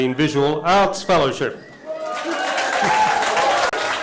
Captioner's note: cheering and applause